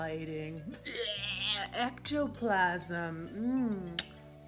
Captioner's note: barfing